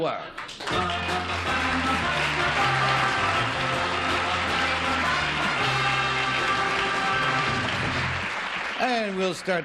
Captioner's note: applause